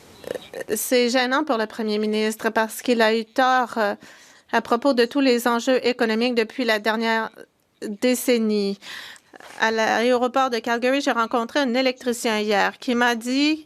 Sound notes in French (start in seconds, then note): 1.3 voix de l'interprète